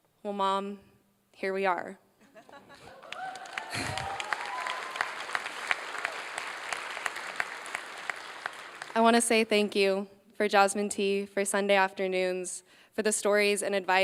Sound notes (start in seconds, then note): 2.8 applause